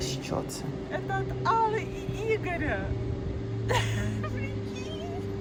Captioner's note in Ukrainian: сміх